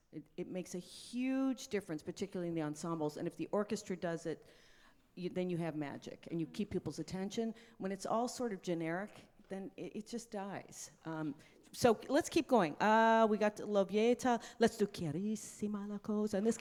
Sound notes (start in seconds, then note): 13.6 speaks in foreign language; 15.0 singing in foreign language